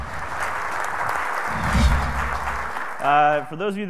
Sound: audience clapping

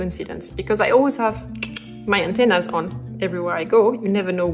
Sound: clicks tongue

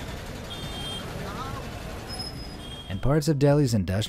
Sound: horn honks

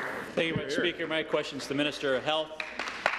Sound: applause

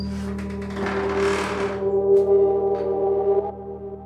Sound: door squeaking

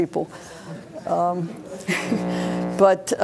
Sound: laughs

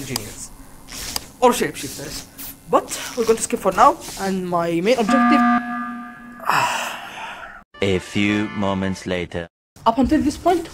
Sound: sigh

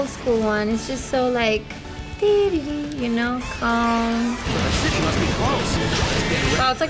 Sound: hums

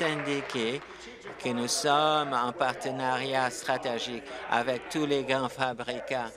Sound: applause

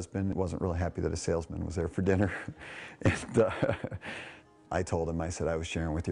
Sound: laughs

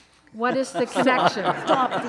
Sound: all laughing loudly

